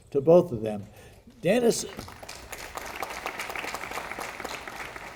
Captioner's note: audience applauding